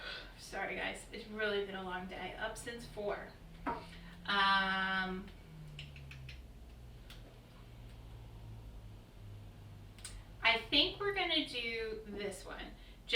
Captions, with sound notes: And. Sorry guys, it has really been a long day. Up since 4. Um. (clicking) I think we are going to do this one.